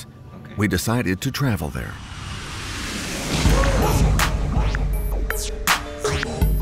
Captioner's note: plane engine running; catchy instrumental music